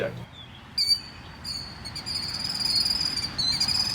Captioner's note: bird tweets